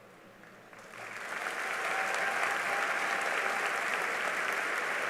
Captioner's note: cheering and applause